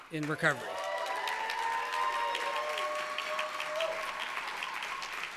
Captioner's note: cheers and applause